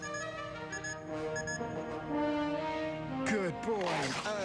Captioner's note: beeping